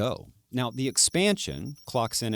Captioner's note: calculator beeping